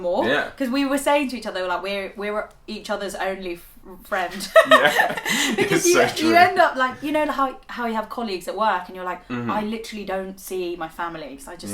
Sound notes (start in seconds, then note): 4.2 laugh